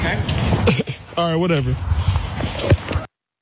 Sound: cough

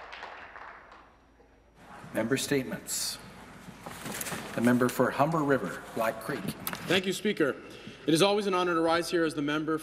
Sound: some Applause

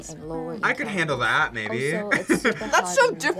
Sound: laughs

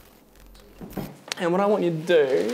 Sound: static hissing

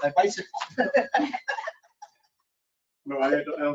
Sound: laughing

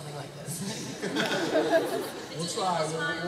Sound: laughter

